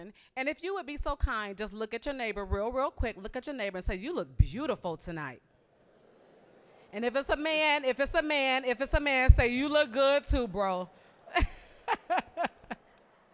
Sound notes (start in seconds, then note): 5.6 audience laughing; 11.0 all laughing